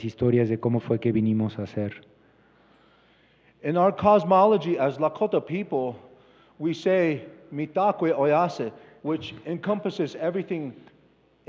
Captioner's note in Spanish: Expositor habla en inglés